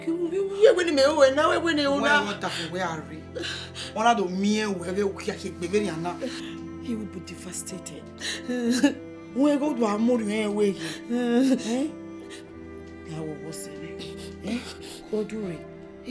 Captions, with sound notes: What do you want me to do? You know, when your husband returns, he won't be pleased to see you like this. (crying) His mind will be restless. Please calm down, my friend.